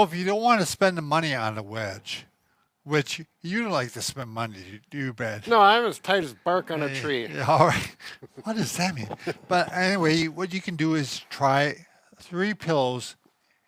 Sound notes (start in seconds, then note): 6.6 laughs